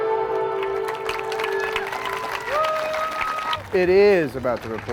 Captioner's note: audience applauding